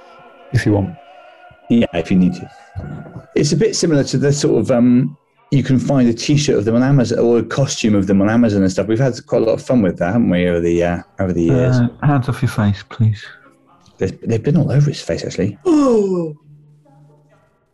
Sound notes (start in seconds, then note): 15.7 brays